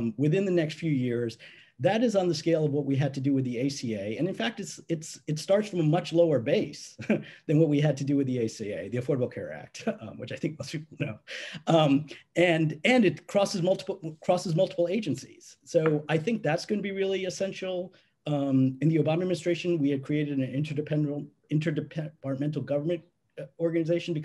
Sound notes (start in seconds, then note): 6.9 chuckling